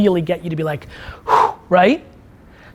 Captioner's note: exhales